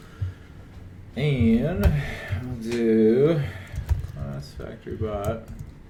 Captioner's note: sighs